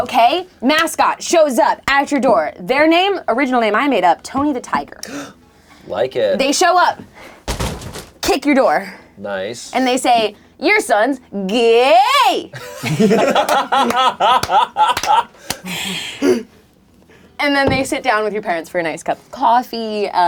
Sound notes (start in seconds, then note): 7.4 graphic banging; 12.5 men laughing; 14.8 hands clapping